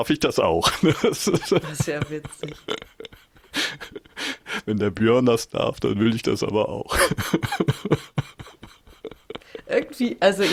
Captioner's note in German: gelächter